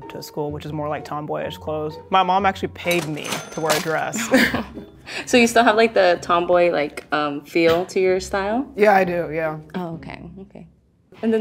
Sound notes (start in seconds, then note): 2.8 cash register ding